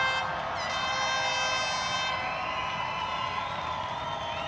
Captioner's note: cheering and applause